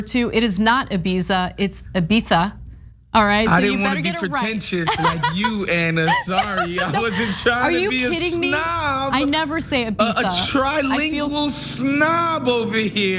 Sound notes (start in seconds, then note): 4.8 laugh